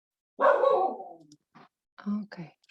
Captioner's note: dog barks